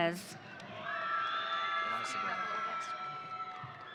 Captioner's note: audience cheering